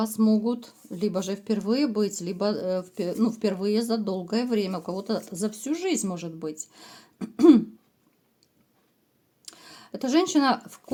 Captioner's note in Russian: откашливается